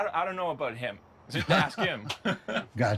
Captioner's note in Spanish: Risas